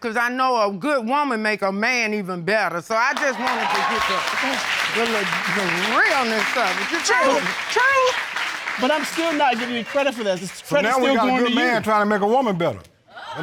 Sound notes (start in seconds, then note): 3.0 audience clapping